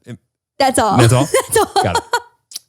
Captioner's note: laughs